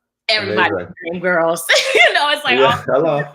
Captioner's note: laughs